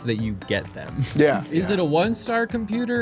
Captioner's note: giggles